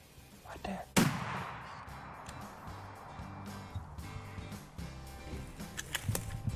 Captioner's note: gunshot